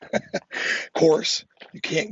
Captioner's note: laughs